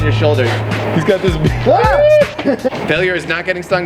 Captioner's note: ahhhh